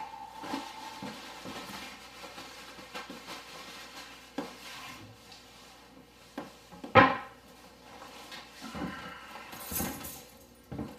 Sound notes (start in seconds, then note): 2.7 rustling sound; 10.2 keys jingling